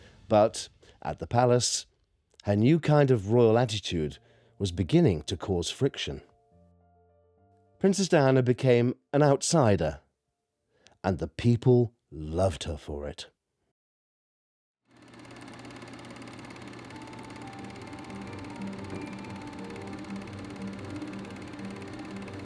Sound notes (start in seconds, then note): 15.0 film rattles